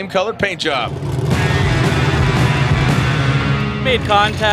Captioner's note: car engines roar